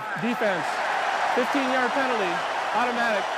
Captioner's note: cheering